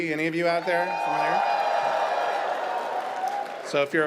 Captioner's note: audience cheers